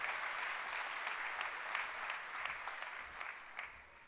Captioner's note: applause